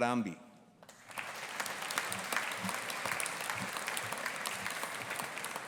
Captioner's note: audience applauding